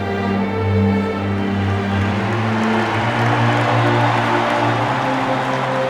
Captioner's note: crowd Cheering